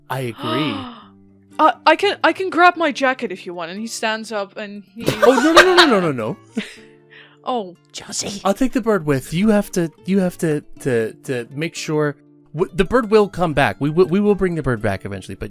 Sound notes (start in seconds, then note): 5.0 laughter; 7.9 whispering